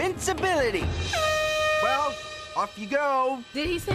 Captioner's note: blows Airhorn